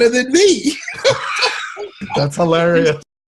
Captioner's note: Les laughs